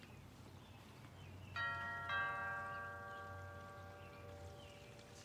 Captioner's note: doorbell chimes